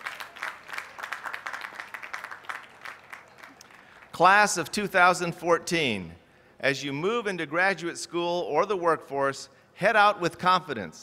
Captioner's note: applause